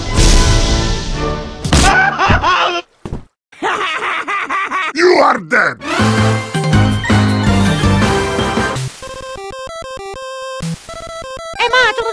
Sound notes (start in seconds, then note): 2.4 screaming in pain; 3.6 laughing